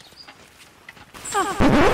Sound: echoing; record scratch

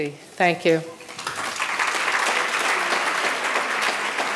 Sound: audience applauding

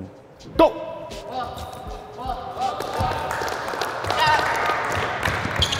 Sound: overlapping chattering

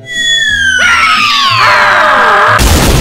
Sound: girlish French Screaming

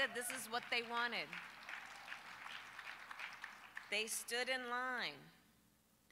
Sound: applause

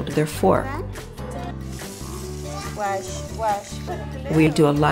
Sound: faucet running

